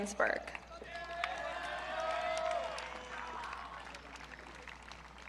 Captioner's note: audience cheering